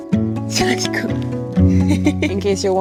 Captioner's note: chuckles